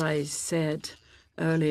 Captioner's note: speaking in French